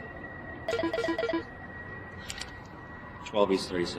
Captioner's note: phone beeping